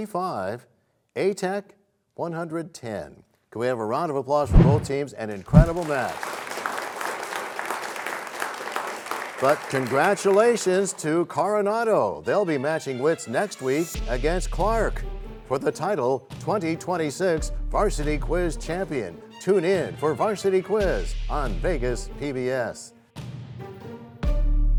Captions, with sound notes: Coronado 145 A-Tech 110. Can we have a round of applause for both teams, an incredible match. [applause] But congratulations to Coronado. They'll be matching wits next week against Clark for the title "2026 Varsity Quiz Champion." Tune in for Varsity Quiz on Vegas PBS.